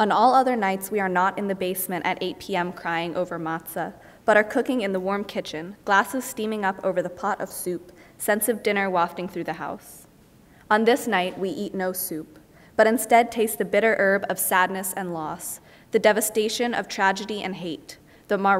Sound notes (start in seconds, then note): none